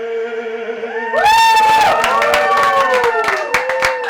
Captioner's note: applause and cheering